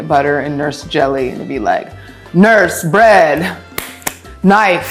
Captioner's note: hands slap